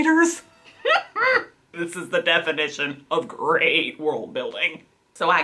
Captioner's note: laughs